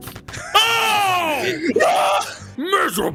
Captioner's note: yell